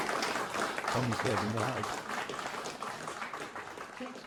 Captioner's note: applause